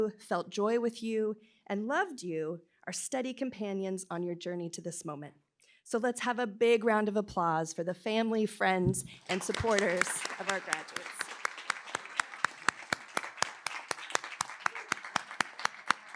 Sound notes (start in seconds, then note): 11.5 applause